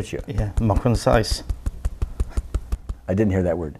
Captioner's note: speaks in foreign language